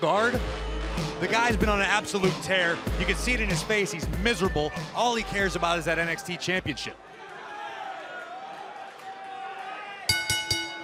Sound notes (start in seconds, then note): 10.1 bell ringing